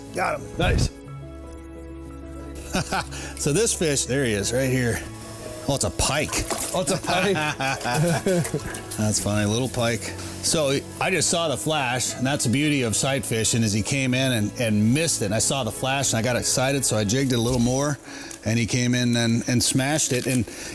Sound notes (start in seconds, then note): 2.5 laughs; 6.4 laugh